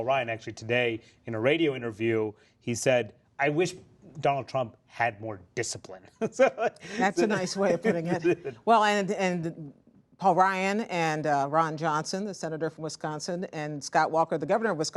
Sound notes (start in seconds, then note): 6.1 laughter